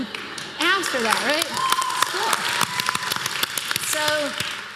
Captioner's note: applause